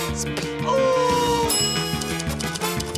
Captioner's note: bell dings